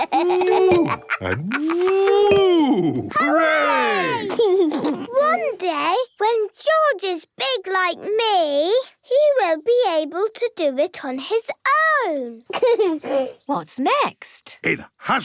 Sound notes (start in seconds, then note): 0.0 laughs; 12.5 giggles